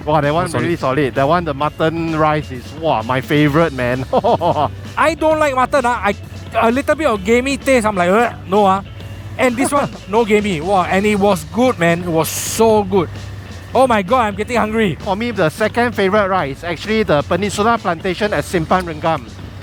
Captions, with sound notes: Wow that is really solid. The mutton rice is Wow my favourite man. I don't like mutton. A little bit of gamey taste and I'm like *gag* no. And this, no gamey. And it was good man. It was so good. Oh my god I'm getting hungry. For me the second favourite right is actually the Peninsular Plantation at Simpang Renggam.